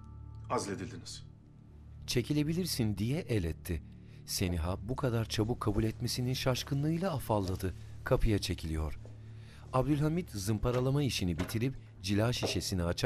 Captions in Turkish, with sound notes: Azledildiniz. (Kapı açılma sesi)